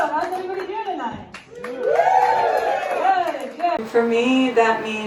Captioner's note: crowd woos